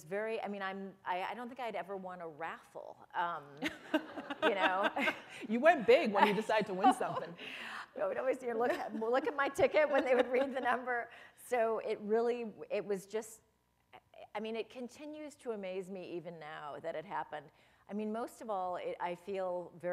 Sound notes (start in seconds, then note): 3.6 laughter; 6.8 chuckle